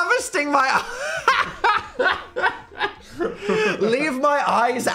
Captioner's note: Dan laughs